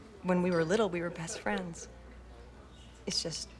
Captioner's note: none